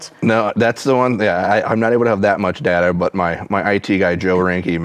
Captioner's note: none